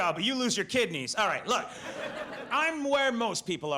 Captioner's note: audience laughs